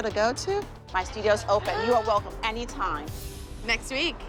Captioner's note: gasps